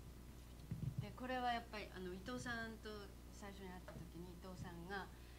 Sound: non-english speech

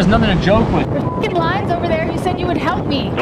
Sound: beep

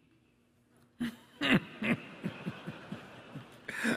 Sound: laughter

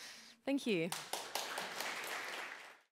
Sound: applause

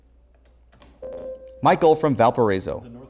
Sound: beeping

